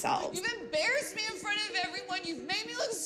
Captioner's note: soundbite of archived recording